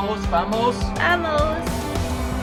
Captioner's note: Spanish